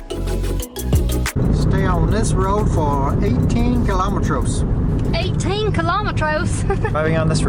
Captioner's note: in a funny accent; laughter